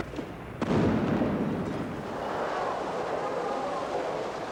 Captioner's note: weapon booming